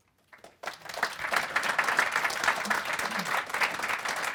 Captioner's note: audience applauding